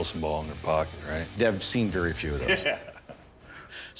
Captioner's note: chuckling